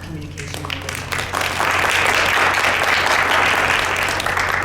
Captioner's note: clapping